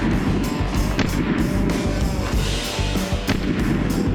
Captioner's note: gun firing